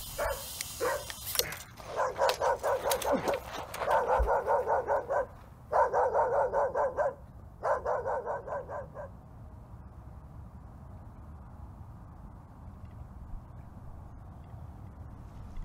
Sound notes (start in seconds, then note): 3.4 dog barking